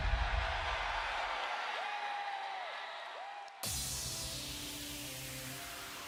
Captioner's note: crowd cheers